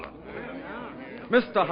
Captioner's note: audience laughing